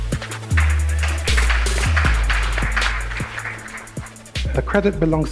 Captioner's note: audience applauds